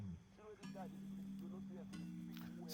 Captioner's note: man talking outside